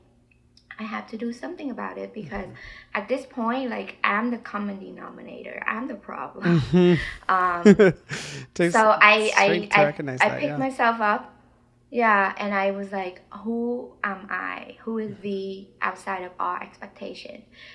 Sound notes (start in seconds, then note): 4.8 person laughing